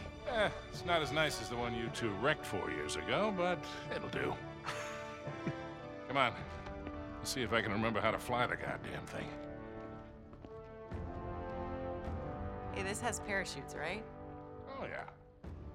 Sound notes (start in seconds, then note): 4.6 laughs